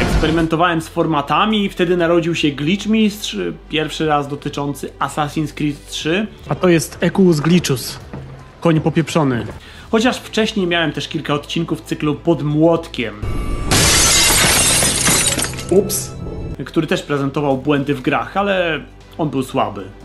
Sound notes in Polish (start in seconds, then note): 13.2 dźwięk tłuczonej szyby, mówi